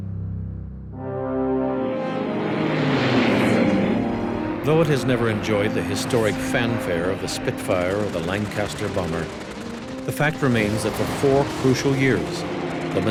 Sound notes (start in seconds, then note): 3.0 mosquito engine roaring